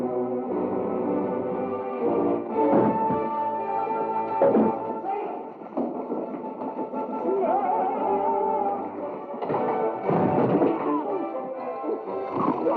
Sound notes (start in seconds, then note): 2.6 thuds; 9.2 thumps